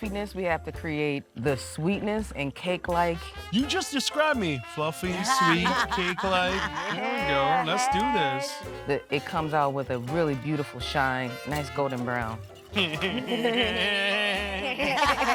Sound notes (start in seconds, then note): 5.0 chefs laughing; 12.8 everyone laughing